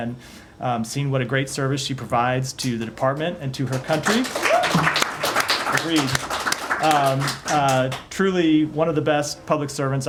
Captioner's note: applause